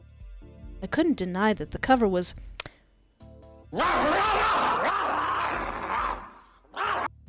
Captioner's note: horny barking